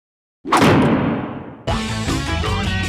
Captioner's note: hard clang sound effect